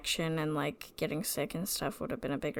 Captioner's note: none